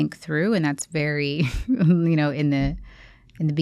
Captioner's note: chuckles